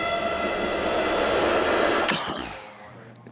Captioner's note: coughs; click